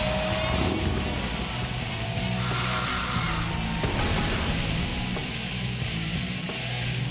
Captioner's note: crowd cheering; upbeat rock music